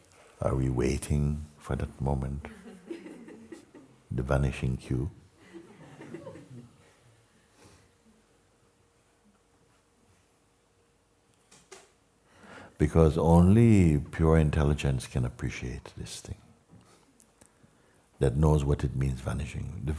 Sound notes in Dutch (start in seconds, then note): 5.4 gelach